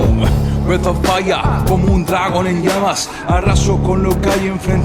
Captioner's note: non-english speech